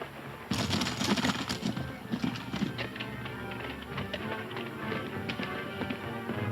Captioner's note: galloping hooves; energetic orchestral music